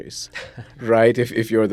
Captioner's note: laughs